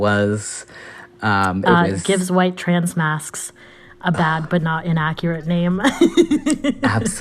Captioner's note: laughter